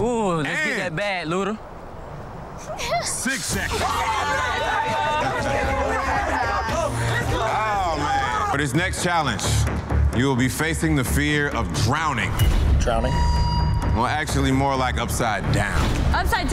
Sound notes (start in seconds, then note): 2.7 laughing; 9.5 dramatic music